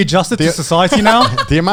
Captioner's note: exclaiming